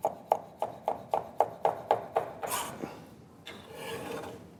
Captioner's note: chopping sounds